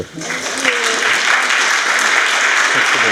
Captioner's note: applause